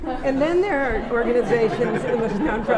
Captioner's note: laughter